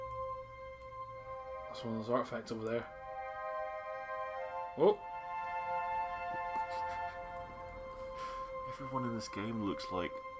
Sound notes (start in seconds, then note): 6.3 NinjaFish laughs